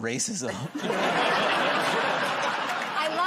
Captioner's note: laughter